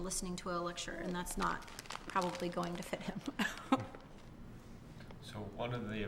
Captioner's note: laughs